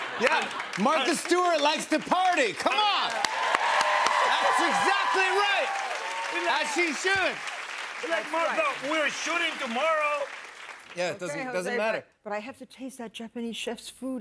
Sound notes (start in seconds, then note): 5.2 cheers and applause